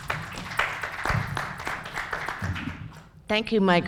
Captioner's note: applauding